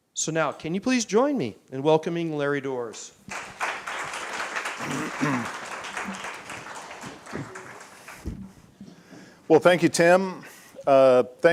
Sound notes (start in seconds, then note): 3.2 applause